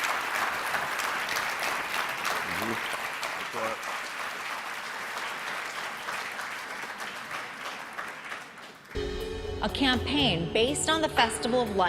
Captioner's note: applause